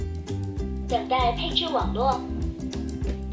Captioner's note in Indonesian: suara mandarin